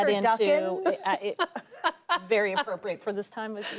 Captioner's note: laughter